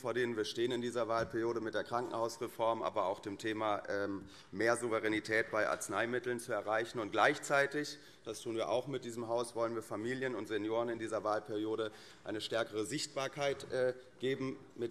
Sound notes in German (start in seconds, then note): none